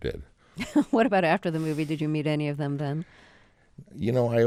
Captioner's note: laughter